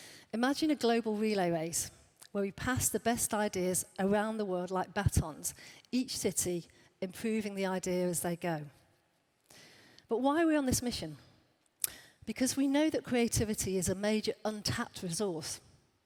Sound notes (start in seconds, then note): none